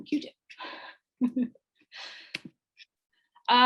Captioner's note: she laughs